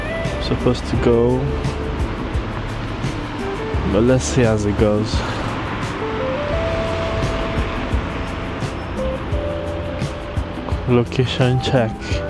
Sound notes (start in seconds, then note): 5.6 wind Blowing